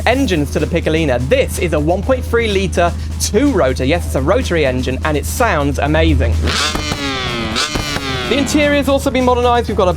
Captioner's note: engine Revs